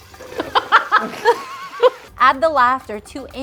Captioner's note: laughing